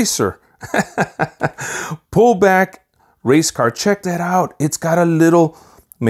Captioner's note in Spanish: La risa